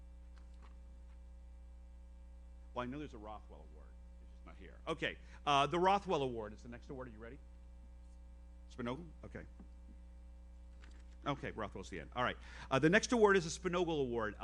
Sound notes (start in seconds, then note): none